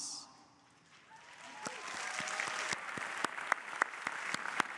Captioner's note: crowd applauding